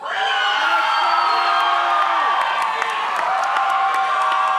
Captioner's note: audience cheers